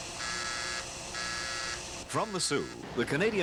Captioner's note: buzzing